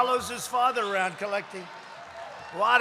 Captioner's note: applause